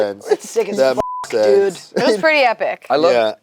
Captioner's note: beep